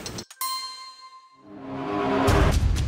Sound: clock starts; suspenseful music

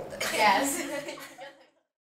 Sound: fading laughter

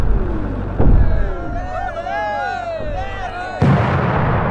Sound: crowd cheering

